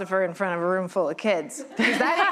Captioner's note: laughter